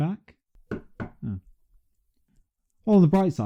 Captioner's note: knock knock